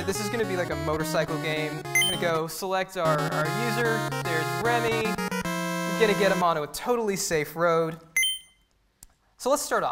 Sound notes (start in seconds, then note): 1.9 game chimes; 8.2 game chimes